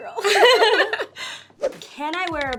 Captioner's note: both laugh